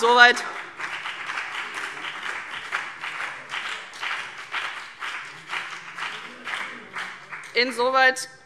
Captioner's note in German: Beifall CDU und BÜNDNIS 90/DIE GRÜNEN